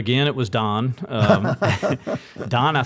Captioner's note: both laugh